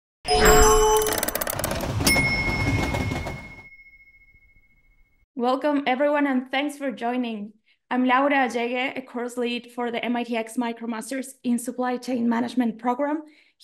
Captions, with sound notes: (bells ringing) - Welcome, everyone, and thanks for joining. I'm Laura Allegue, a course lead for the MITx MicroMasters in Supply Chain Management Program